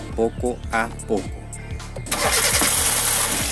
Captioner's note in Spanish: Engine starting